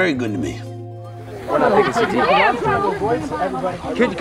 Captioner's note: group chattering